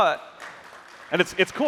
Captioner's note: applause